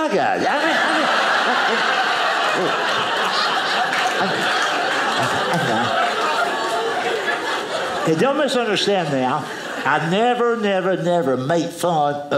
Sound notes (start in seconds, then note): 0.3 audience laughing